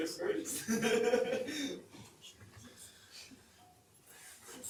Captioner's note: laughs